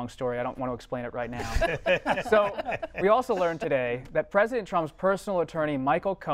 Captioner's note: laughter